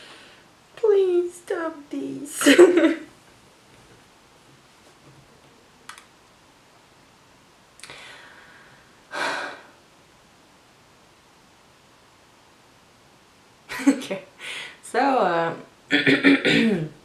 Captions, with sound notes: Please stop this (laughs) okay so...